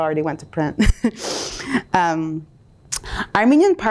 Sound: chuckles

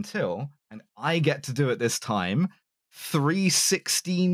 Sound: excited

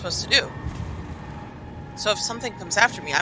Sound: electrical flare

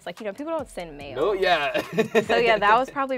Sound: laughs

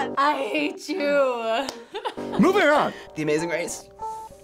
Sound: laughs

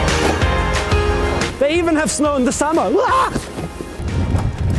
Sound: screams

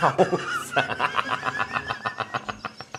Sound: nervous Laughter

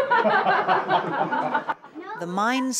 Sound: all laugh

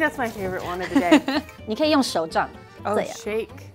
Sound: speaking in mandarin

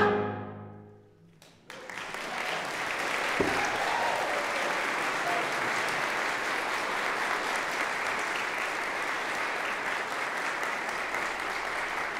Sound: applause

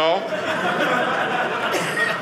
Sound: audience laughing

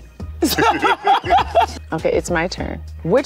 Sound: laughing

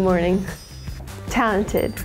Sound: picture tinkling

